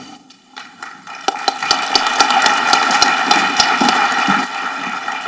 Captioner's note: audience applauding